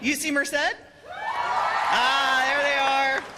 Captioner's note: cheers and applause